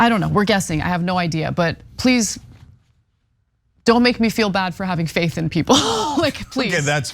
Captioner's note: laugh